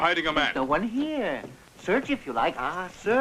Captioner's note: none